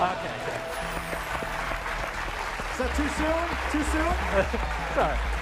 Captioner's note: cheers and applause